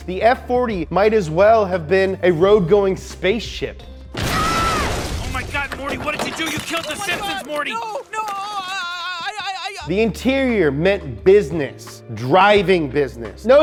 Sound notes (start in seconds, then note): 4.2 screaming; 9.0 stuttering